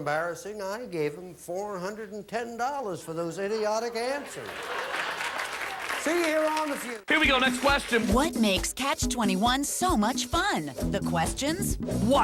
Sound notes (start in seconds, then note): 3.9 audience laughing; 9.2 audience applauding